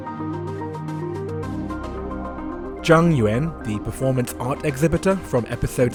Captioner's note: voiceover